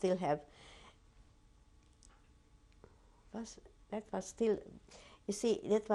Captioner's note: pauses for 3 seconds